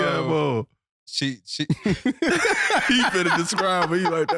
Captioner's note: all laughing